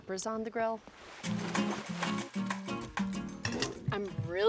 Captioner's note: water splashing; upbeat music